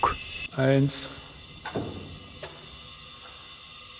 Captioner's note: whirring